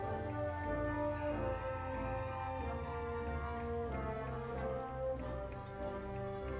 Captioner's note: audience applauding and cheering